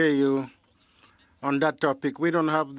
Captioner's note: speaking French